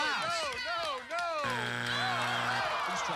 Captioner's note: buzzer